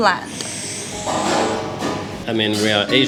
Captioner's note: 倒吸一口涼氣